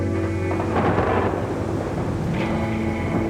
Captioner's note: rumble of thunder